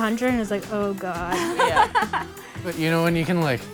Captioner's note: laughing